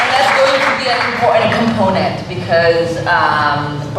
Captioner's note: applause